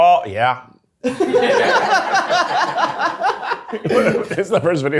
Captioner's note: all laughing